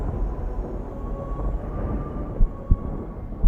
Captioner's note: chanting